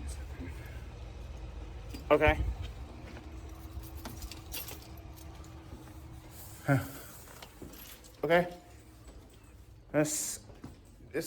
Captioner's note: stammers